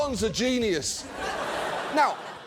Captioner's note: audience laughs